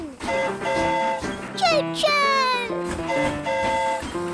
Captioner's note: train horn hooting